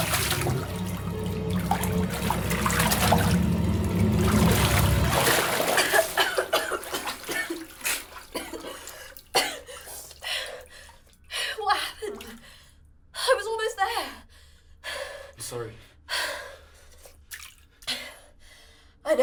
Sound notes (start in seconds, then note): 5.2 coughing; 16.2 gasping